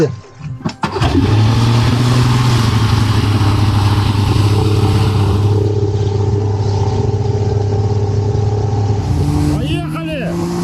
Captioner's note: engine sounds